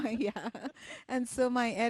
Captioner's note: laughs